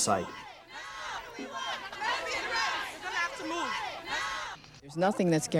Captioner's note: chanting